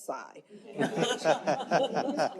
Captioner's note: laughter